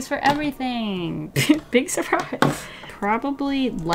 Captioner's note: giggle